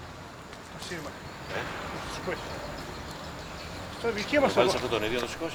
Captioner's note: men chattering in Greek